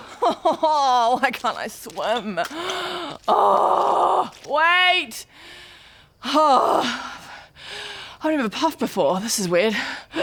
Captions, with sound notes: *sobs* why can't I swim? *awwwwwgh* Wait! *hrrgh* I've never puffed before, this is weird